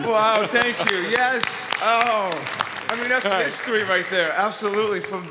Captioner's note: audience applauds